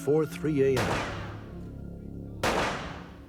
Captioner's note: gunshots